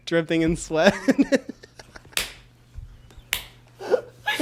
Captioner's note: both laugh